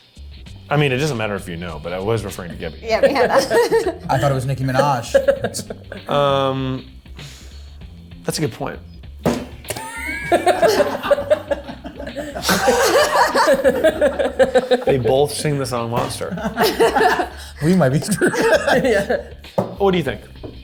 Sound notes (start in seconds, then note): 5.0 laughs; 9.7 laughs; 11.2 group laughs